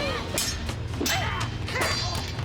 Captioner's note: groaning